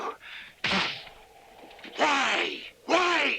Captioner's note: blow thuds